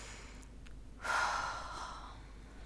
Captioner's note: sighs